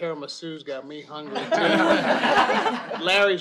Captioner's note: laughter